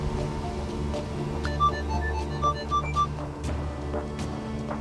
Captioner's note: beeping